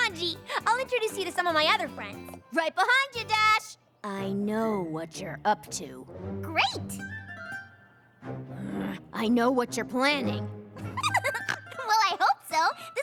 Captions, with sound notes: COME ON, "G," I'LL INTRODUCE YOU TO SOME OF MY OTHER FRIENDS. RIGHT BEHIND YOU, DASH! I KNOW WHAT YOU'RE UP TO. GREAT! [ GROANS ] I KNOW WHAT YOU'RE PLANNING. [ LAUGHS, SNORTS ] WELL, I HOPE SO.